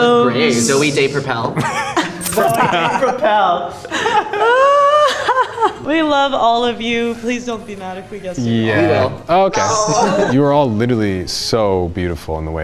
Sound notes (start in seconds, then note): 1.6 everyone laughs